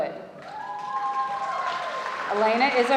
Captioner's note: audience applauds